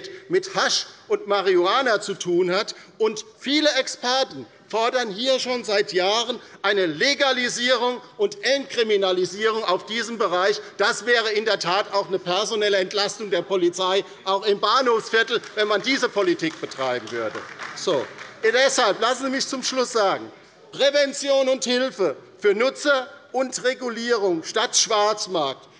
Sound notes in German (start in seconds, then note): 17.5 Beifall bei der LINKEN